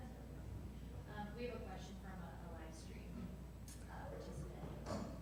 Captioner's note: speaking faintly